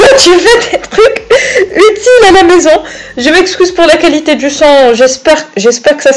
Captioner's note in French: Rire